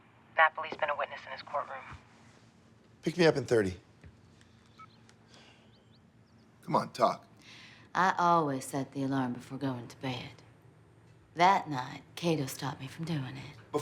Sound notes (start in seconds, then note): 4.7 cell phone beeps